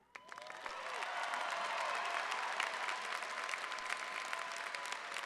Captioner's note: audience applause